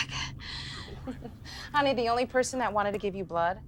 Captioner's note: laughs